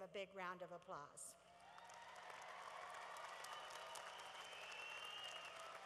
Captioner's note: cheering